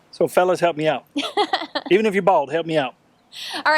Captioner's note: laughing